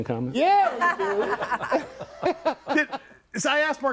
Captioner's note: group laughs